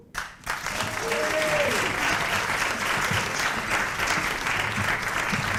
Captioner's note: applause